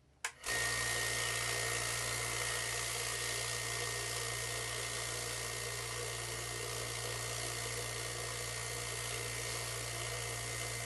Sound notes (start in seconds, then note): 0.7 tumbler buzzing